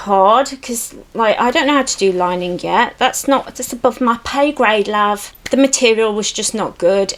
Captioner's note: essex accent